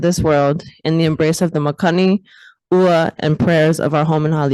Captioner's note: speaks in foreign language